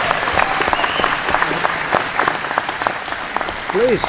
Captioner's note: applause